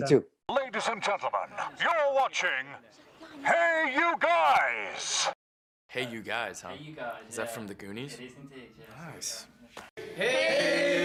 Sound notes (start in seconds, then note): 1.1 narrator using A Bullhorn